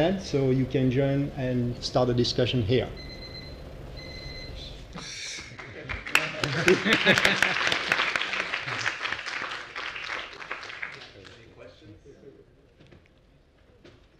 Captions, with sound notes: And so you can join and start a discussion here. >> [APPLAUSE] >> [LAUGH] >> [APPLAUSE] >> Any questions?